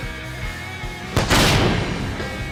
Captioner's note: explosion